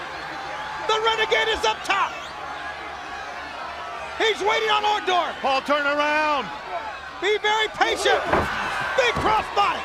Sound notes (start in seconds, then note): 1.1 crowd chatter; 3.9 crowd chatter